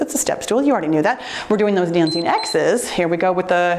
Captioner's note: timer beeps